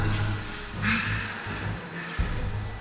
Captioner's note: Donkey's bray